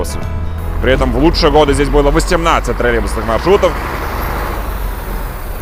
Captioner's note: engine roar